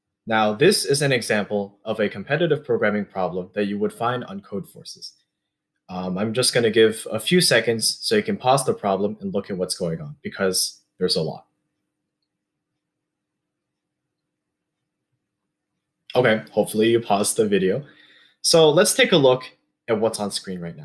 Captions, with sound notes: Now this is an example of a competitive programming problem that you would find on Codeforces. I'm just gonna give a few seconds so you can pause the problem and look at what’s going on because there’s a lot. [pause] Okay, hopefully you paused the video. So, let’s take a look at what’s on screen right